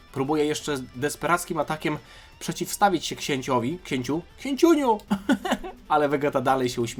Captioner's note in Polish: śmiech